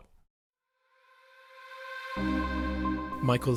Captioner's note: voiceover